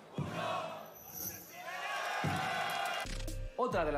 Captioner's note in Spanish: Aplausos